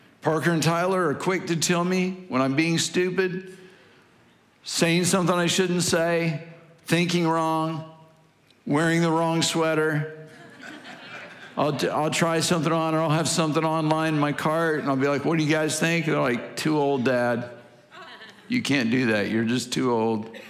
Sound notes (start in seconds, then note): 10.1 congregation laughing